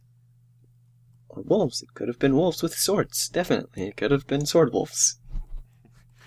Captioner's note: mumbling to herself